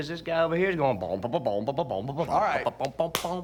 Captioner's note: imitates bubbly bass line